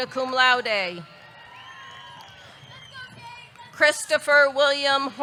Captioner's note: audience cheering; audience clapping